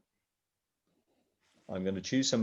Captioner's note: silence